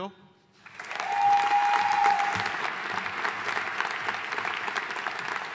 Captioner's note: audience cheering and applauding